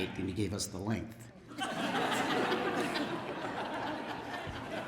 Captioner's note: laughter